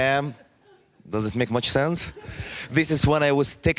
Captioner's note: laughing